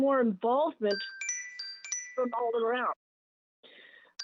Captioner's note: chime